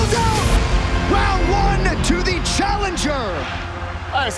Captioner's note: air horn blares